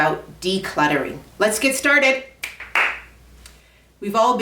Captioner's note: snaps and claps